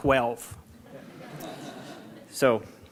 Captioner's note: audience laughing